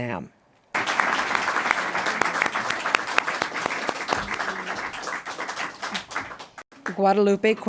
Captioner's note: applause